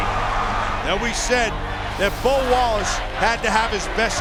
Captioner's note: voiceover